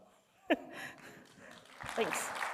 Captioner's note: applause